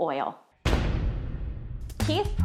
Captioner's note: dramatic crash